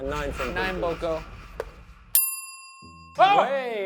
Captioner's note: bell dings